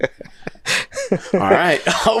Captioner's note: laughing